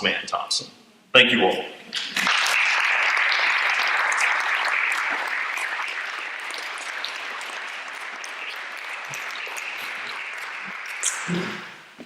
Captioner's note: applause